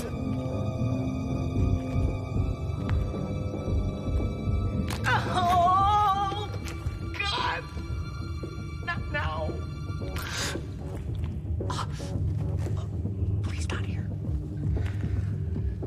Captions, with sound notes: [suspenseful music] [back cracks] Oh God! Not now! [gasps] Please not here!